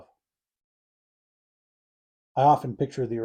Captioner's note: pause